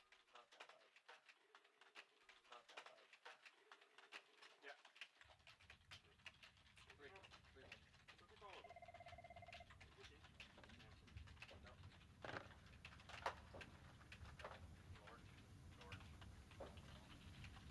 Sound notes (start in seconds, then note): 8.3 phone ringing over muffled office chatter